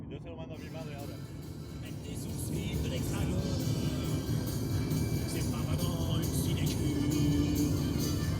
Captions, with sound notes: [in Spanish] I'll send this to my mother.